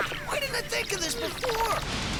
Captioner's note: laughs